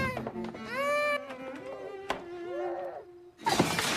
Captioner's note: doorknob Rattles